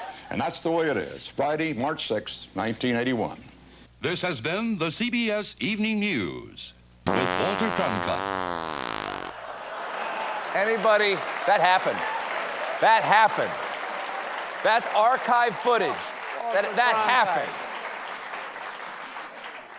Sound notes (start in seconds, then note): 7.0 long fart; 7.7 applause